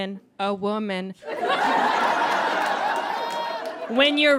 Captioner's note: audience laughs